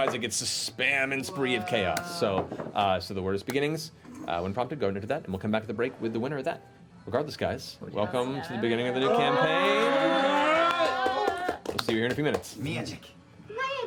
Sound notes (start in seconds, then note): 9.9 yelling